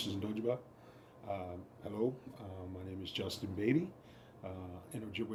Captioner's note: in English